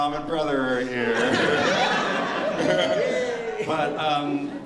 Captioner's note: laughter